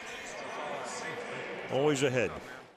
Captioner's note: pa announcement